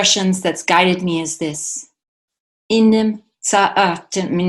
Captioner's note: speaks Nimipuutímt